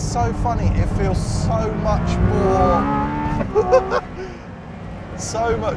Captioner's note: laughs